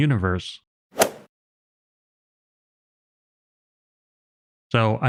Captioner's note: golf ball hit sound effect